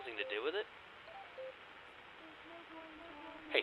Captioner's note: radio beeping; echoing